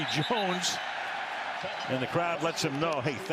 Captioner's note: whistle blowing